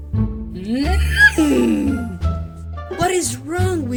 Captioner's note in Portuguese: sons de irritado